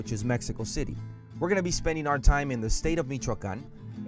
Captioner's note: speaks foreign language